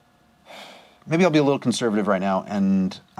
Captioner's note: sighs